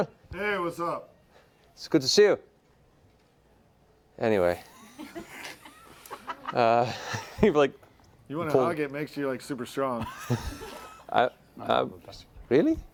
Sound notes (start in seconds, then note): 4.6 laughter